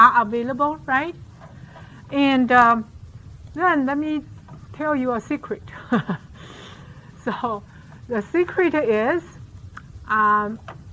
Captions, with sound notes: right? And, let me tell you a secret. (laughs) So, the secret is.